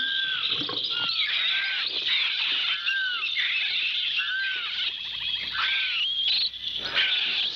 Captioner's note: barking